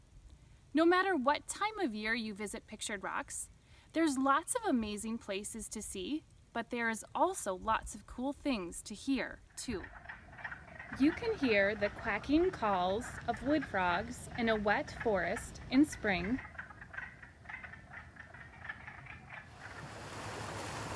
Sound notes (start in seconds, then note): 9.4 frog calls; 19.7 waves